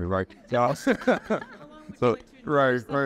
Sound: all laughing

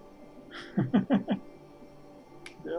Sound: chuckles

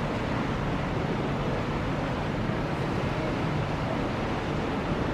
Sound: waves lapping softly

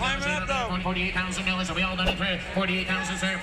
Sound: auctioneer chant

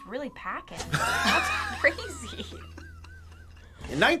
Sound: laughs

